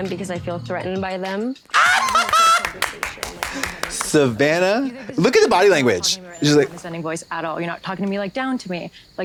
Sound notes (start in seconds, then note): 1.7 Trixie caws and applauds; 1.7 Katya claps